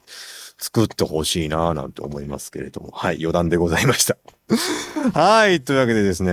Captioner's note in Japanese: 笑い